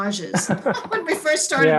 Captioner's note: laughing